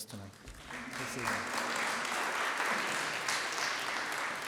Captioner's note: applause